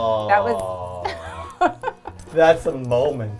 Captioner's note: laughs